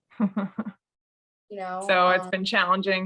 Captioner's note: laughs